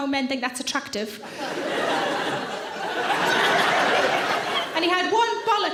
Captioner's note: audience laughing